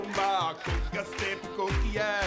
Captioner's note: rhythmic clapping